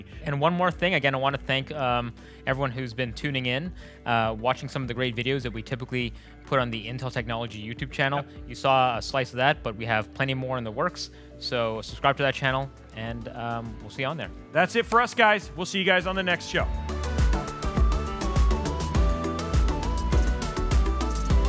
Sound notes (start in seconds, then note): 9.1 smooth chill music; 14.8 claps hands; 17.0 smooth chill music